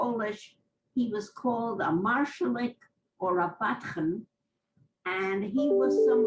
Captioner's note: non-english